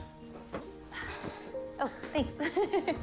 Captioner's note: gigglgles